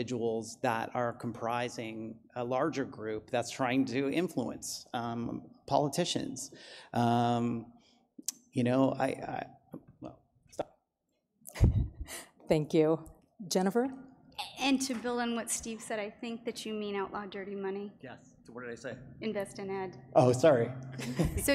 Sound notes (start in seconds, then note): 11.5 moderator laughs